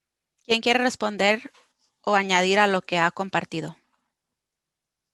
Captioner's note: speaking foreign language